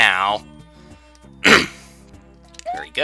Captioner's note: clears throat